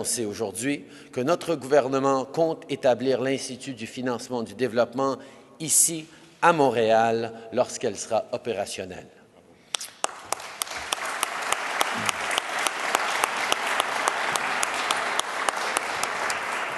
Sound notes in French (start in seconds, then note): 12.3 Applaudissements